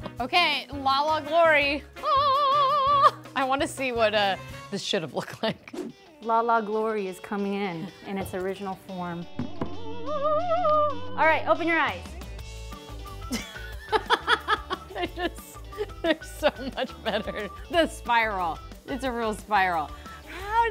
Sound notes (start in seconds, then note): 2.2 vocalizes; 9.7 vocalizes; 13.3 laughs